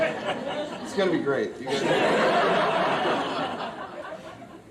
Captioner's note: audience laughs